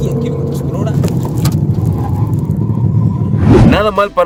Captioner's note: tyres squealing